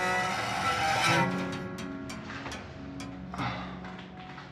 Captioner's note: door creaking